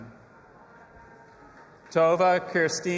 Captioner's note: audience applauding and cheering